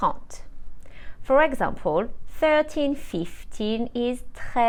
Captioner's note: speaks French